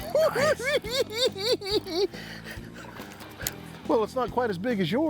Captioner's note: cackling